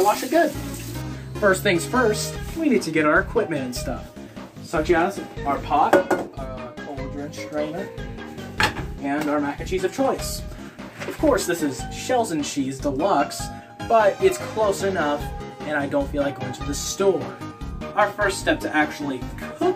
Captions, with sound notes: We gotta wash it good :D First things first, we need to get our equipment and stuff. such as... our pot, *pot bonks* a cauldron- STRAINER, and our mac and cheese of choice. of course, this is Shells and Cheese DELUXE but, its close enough, and i dont feel like going to the store.